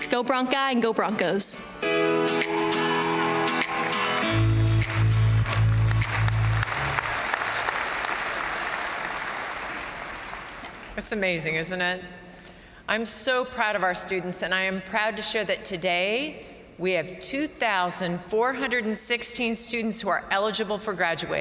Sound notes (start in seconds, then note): 1.7 upbeat music; 2.1 crowd cheering; 6.3 crowd applauding